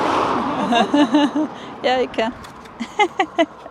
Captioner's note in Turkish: kahkaha